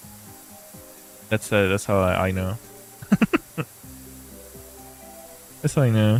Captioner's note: laughter